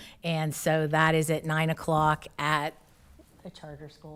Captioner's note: none